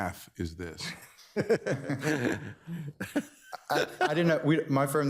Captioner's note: all laughing